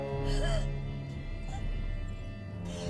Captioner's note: gasping